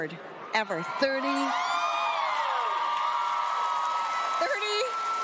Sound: cheering

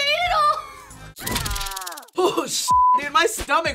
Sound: person screams

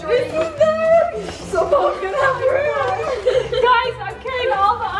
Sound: girls laugh

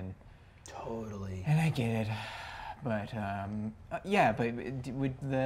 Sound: sighs

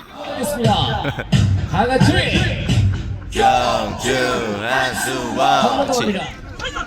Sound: the cheering continues from time to time haha

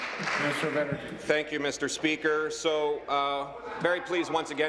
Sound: applause

